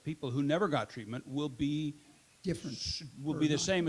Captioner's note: audience member shushes